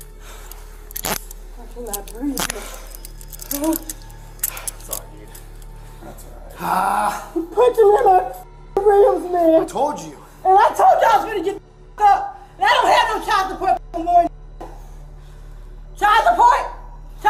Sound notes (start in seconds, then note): 0.4 cuffs click; 3.5 pants